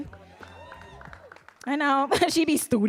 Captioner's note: audience cheering